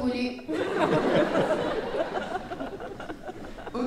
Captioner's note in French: rires